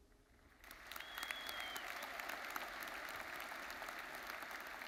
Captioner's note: audience applauds